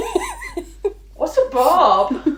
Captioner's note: laughing